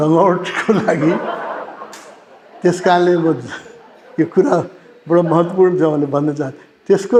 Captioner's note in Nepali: हास्य